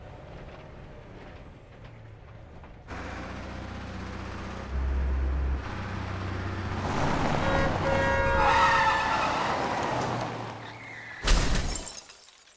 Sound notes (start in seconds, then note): 7.3 Horn blares; 8.3 Tires screeching